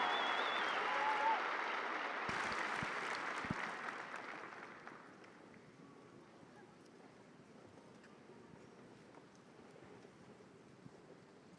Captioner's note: cheers and applause